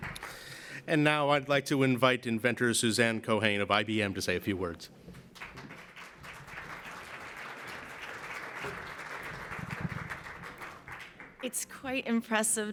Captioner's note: applause